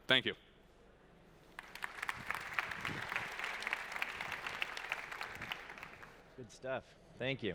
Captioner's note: applause